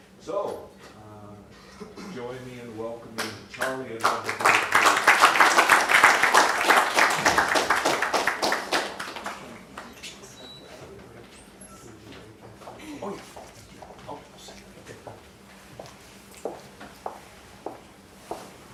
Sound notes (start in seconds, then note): 4.0 applause